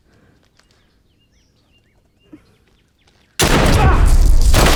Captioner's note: guns firing